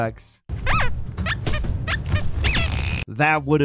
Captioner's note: attacks squeak